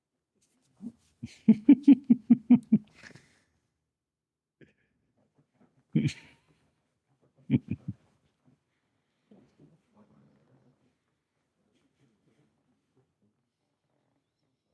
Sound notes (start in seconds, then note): 1.2 laughing